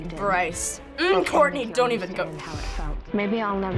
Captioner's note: nerved breath